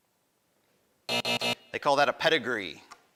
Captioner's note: buzzing